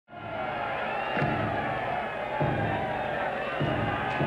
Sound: crowd cheering

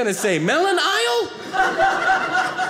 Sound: audience laughing

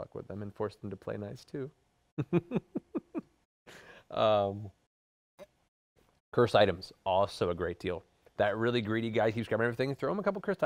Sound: laughs

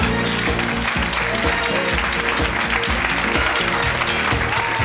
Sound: engaging music; crowd applauds and cheers

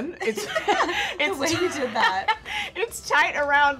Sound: laughs

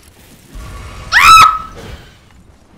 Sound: scream

